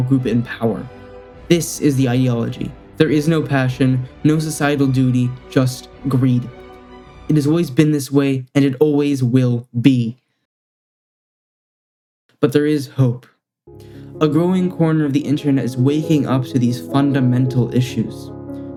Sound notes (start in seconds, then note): 11.1 silence